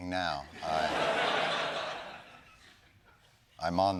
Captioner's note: laughter